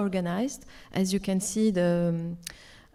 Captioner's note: speaks French